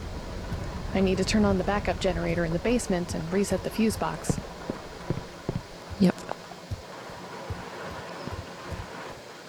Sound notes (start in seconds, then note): 6.3 thunderstorm continues